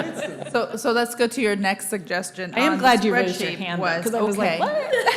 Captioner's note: laughter